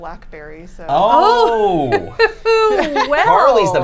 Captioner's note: laughs